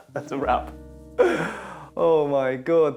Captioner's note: laughs